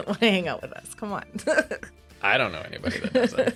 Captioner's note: laughs